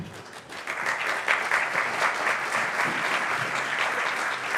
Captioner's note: audience applauding